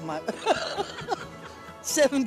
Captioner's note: laughing